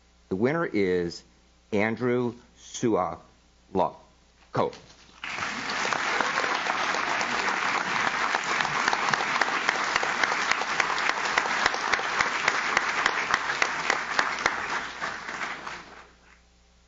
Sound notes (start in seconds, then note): 5.6 audience claps